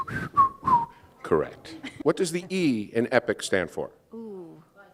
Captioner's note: whistling